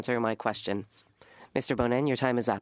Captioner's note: speaking French